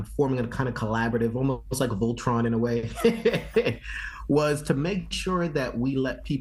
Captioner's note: laughs